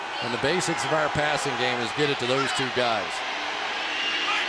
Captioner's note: crowd cheering